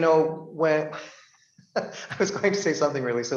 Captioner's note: laughs